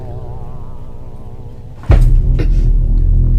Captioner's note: roof thumping; didgeridoo droning